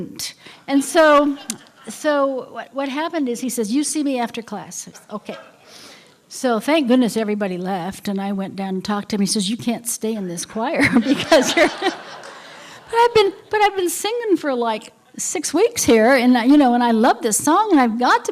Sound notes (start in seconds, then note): 10.8 laughter